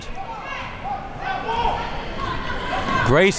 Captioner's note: crowd talking and yelling